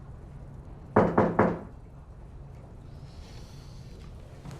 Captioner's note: golpes en la puerta